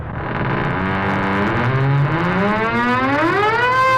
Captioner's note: door creaking